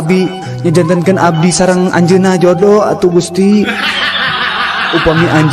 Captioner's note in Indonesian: tertawa